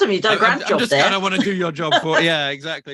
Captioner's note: chuckles